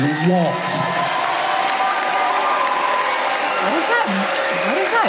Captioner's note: audience cheering